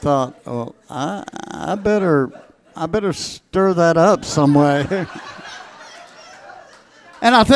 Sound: laughs

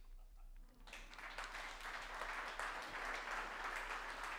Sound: audience applauding

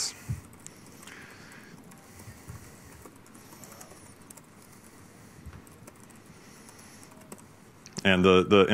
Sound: keyboard typing

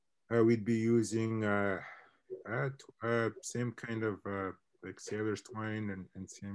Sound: mutters

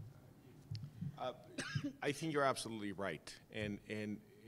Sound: cough

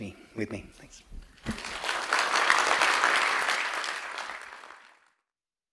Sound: applause

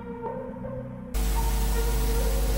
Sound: interference

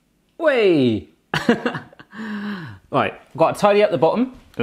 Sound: laughs

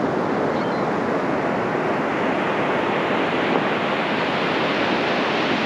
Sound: gulls squawking in the distance

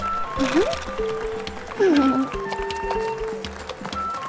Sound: horse snorting

